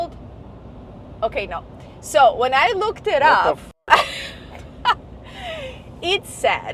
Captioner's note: laughs